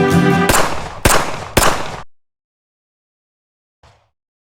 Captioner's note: gunshots blaring